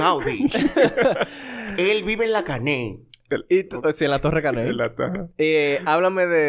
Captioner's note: laughs